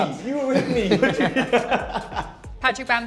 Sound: both laughing

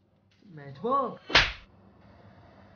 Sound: slap

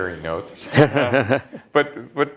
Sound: laughter

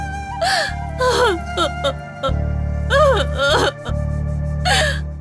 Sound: crying

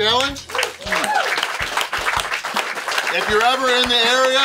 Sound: crowd cheers, applauds

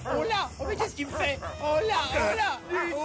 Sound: straining

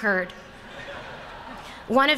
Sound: laughter

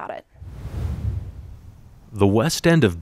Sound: screen wipe whooshes

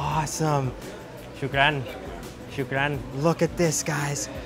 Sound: speaking in foreign language

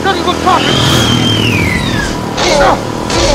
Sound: raptor Squeals

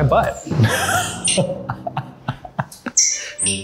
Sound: laughter

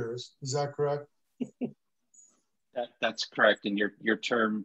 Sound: laughter

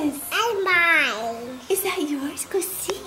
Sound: baby talk

